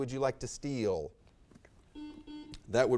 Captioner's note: buzzer sounds